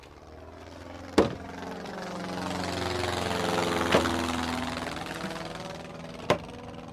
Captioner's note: small airplane overhead